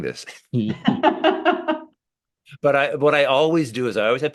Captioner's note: laughing